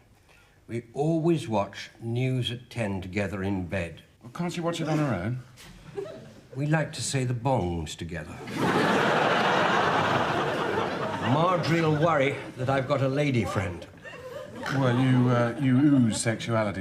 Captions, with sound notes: We always watch "News At Ten" together in bed. - Well, can't she watch it on her own? - We like to say the bongs together. (audience laughs) Marjorie'll worry that. I've got a lady-friend. - Well, you, er... you ooze sexuality, George.